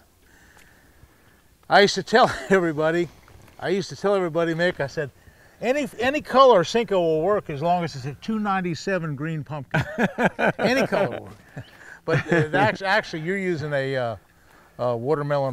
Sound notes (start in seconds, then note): 2.2 chuckling; 9.7 laughing